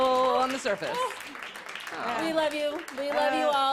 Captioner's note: applause